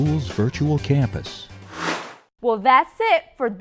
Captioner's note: sound Effects